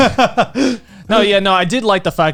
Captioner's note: laughing